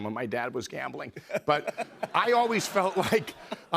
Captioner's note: laughter